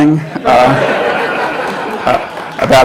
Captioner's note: laughter